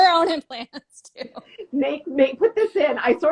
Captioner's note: laughing